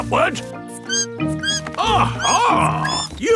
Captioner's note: bat squeaking